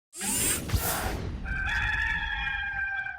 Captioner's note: machines beeping; rooster crowing